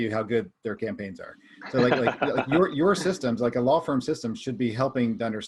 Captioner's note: laughs